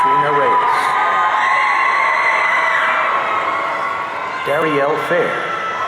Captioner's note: audience cheering